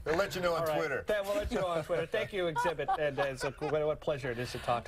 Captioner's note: laughter